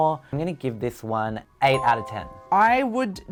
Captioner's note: bell chiming